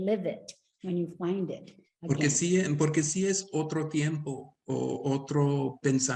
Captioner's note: speaking Spanish